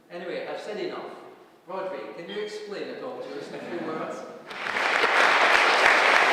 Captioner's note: applause